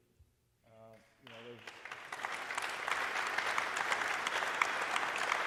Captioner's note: audience applauding